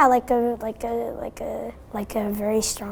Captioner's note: stutters